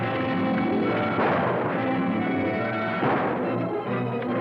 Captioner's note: guns firing